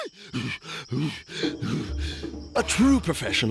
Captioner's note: whimpering; hyperventilating